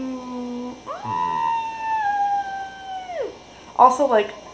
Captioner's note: soft, but heartfelt scream